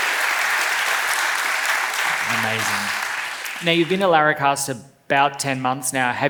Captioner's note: laughs